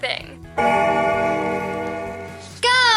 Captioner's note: bell ringing